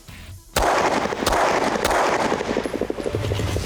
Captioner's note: gun fires